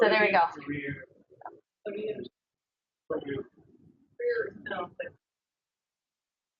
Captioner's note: people speak through warped and choppy audio